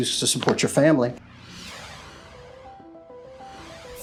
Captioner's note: graphics whoosh; soft music